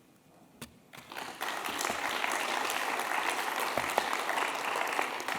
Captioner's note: applause